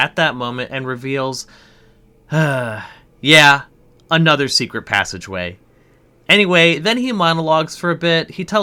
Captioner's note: sigh